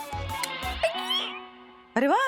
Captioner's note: ecstatic cry; switch clicking